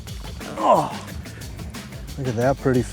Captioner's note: fisherman groans